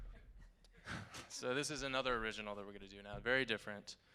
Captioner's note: chuckles